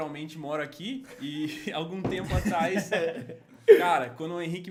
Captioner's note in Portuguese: Risos